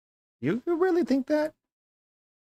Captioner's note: none